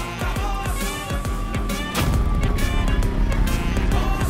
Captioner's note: Bike sound